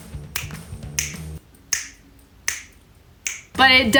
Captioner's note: fingers snapping